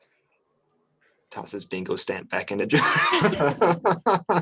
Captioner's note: laughs